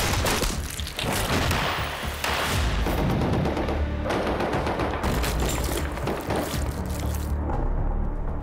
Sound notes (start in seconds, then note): 2.0 dramatic music; 4.8 blood splattering